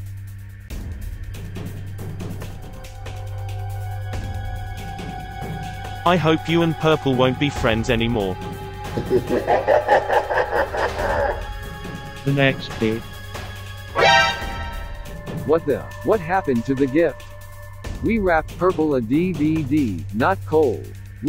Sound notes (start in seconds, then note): 8.9 laughing evilly; 14.0 exclaiming